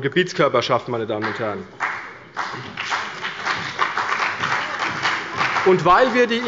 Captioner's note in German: Beifall bei Abgeordneten der CDU und bei dem BÜNDNIS 90/DIE GRÜNEN